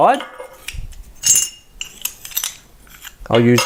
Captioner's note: clinking